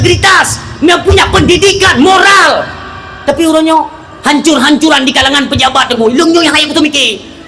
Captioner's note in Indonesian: berteriak